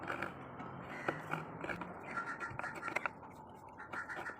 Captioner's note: crow